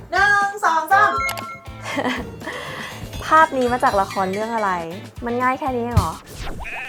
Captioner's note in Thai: เสียงหัวเราะ